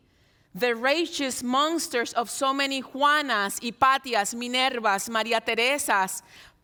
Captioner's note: speaks in Spanish